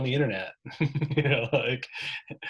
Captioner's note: laughter